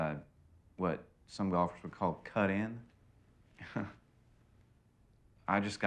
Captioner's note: chuckles